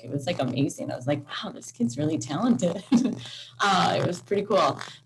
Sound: laughs

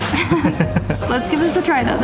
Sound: both laughs

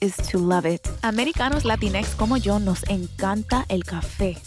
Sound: speaking In Spanish

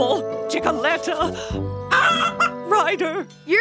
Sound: clucking

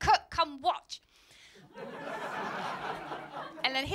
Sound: laughter

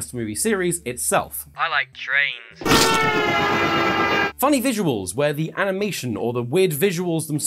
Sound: train horn

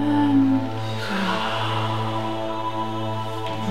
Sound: breathing

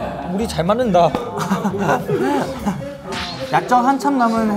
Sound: hahahahahaha

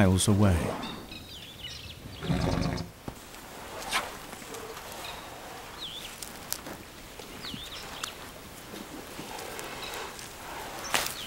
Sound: chewing

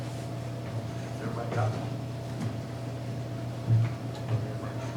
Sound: faintly speaking

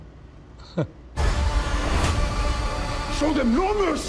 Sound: Zack chuckles

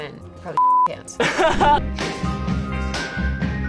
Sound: laughs; upbeat music

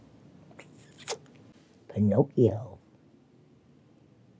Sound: sucks loudly

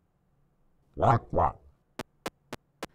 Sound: approving squawk

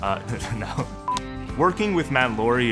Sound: chuckling

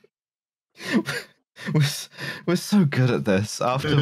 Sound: laughs nearly silently

